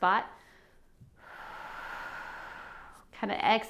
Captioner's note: exhales